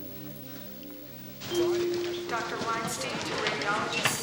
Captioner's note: people chattering